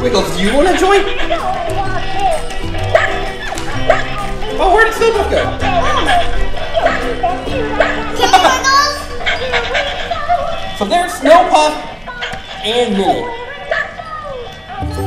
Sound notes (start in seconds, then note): 2.8 dog barking